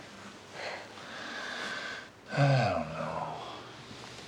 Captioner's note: sighing